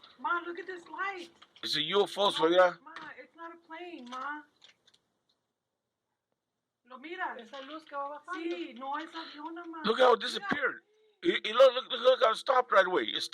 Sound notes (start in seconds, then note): 7.4 woman speaking in foreign language